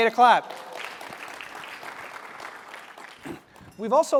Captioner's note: applause